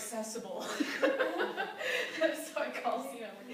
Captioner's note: laughter